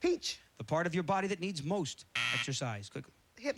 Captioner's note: buzzer